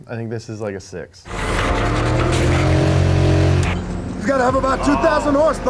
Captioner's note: car engine revving